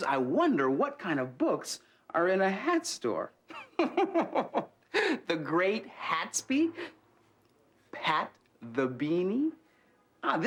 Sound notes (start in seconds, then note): 3.6 LeVar laughs